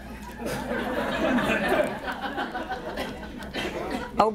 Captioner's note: laughter